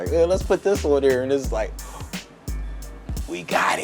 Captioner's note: gasping